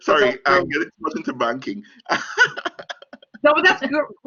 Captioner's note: laughing